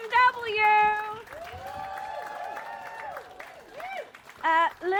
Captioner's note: cheering